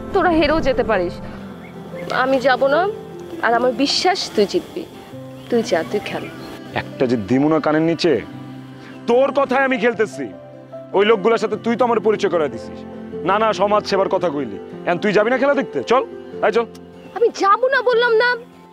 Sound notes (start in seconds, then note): none